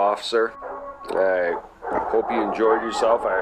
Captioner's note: dogs barking, alarms, sirens, people shouting